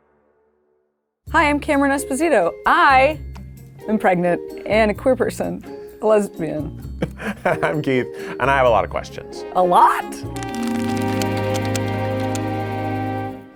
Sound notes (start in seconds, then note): 7.0 laughs; 10.3 relaxed jazz music